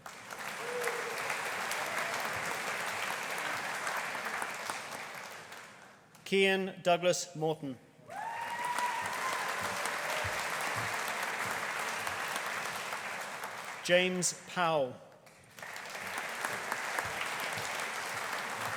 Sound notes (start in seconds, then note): 0.0 audience applauding; 8.1 audience cheering; 8.1 audience applauding; 15.3 audience applauding